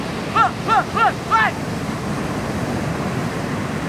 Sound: waves crashing on the beach

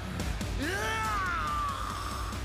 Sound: roaring

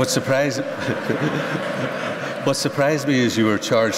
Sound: laughter

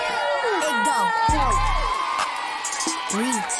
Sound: cheering

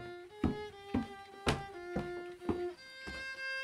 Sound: footsteps

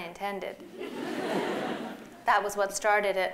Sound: laughter

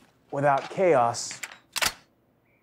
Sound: gun cocking; gun blasting

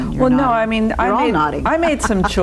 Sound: laughs

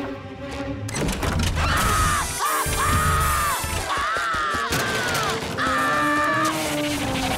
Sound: screaming

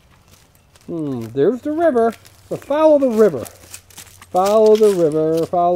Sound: voiceover

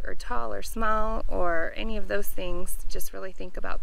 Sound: none

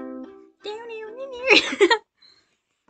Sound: laughing

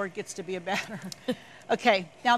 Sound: both chuckle

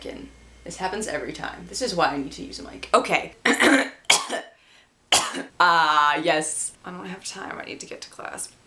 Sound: coughing

